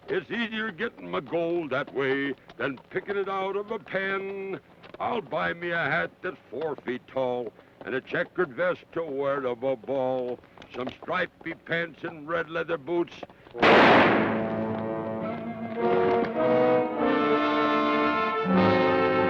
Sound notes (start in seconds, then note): 13.6 gun fires; 13.6 ominous orchestral music